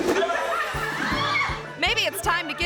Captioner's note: student screams